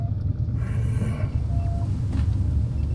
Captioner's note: growls under breath